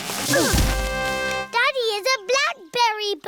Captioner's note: all grunt